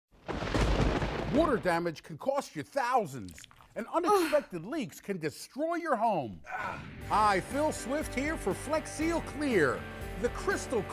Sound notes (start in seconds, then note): 6.4 man grunts